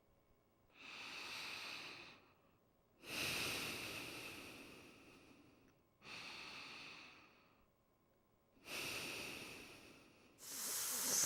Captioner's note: breathing